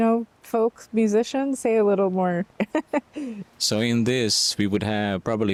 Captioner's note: laughter